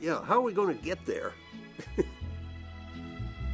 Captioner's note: laughs